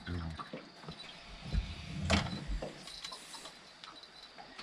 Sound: jangling; water lapping

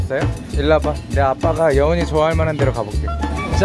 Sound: confident

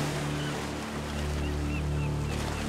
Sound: seagulls

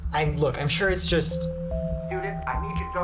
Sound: melodic chime

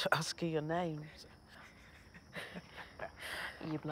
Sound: nervous laugh

